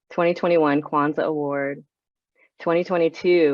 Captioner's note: none